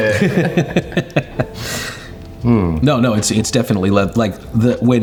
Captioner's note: laughs